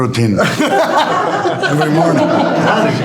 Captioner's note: everyone laughing